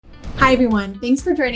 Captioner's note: air whooshing and upbeat music